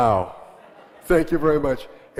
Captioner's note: audience laughing